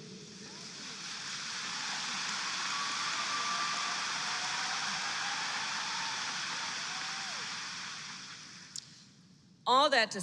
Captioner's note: applause